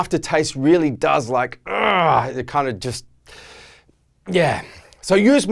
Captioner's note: grunting